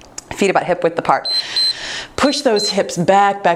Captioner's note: timer beeps